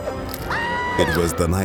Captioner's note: screaming